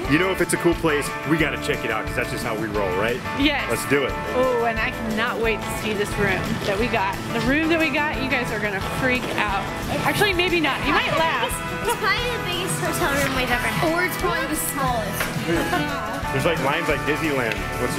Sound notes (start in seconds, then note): 15.3 chuckles